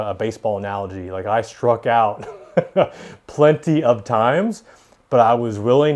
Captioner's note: chuckles